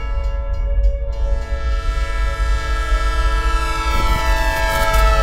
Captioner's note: train horn honking